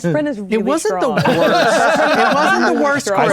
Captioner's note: players laughing